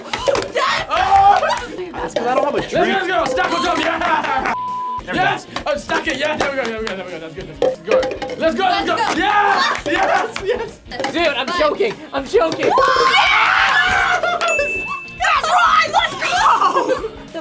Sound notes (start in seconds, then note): 0.2 gasps; 12.6 screams; 15.9 laughs